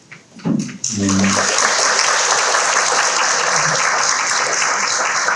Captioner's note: audience clapping